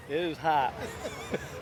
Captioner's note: laughter